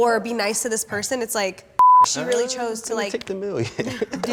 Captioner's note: beep